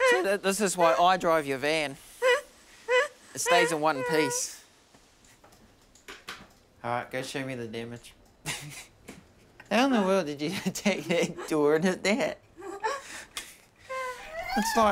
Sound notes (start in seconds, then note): 8.4 laughs